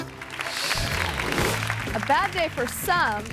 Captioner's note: audience claps